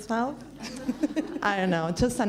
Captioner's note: laughs